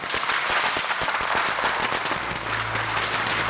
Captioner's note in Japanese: 拍手